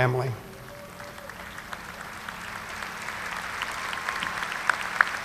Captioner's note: audience applauding